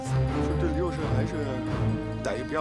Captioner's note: speaking Chinese